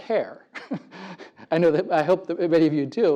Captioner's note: laugh